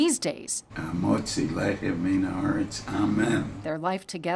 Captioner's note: speaking in foreign language